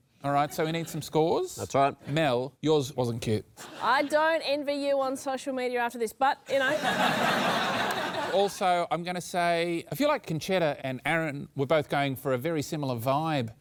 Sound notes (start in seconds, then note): 6.5 laughter